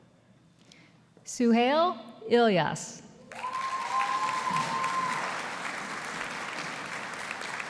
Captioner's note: audience applauding